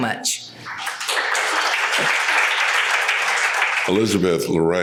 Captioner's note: audience applauds